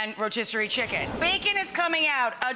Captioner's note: air whooshing